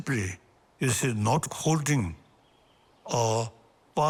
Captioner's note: none